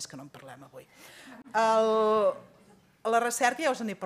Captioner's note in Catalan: riures